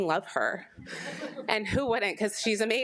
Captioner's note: attendees laughing